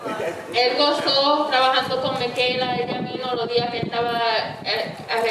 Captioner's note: speaking in foreign language